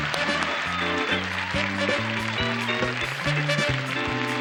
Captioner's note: cheers and applause